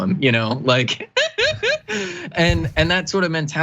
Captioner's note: laugh